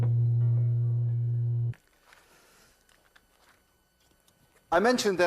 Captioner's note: shatters slowly